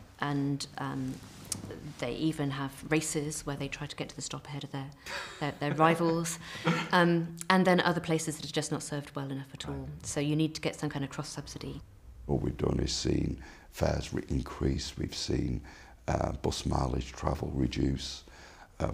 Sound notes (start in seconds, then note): 6.4 laugh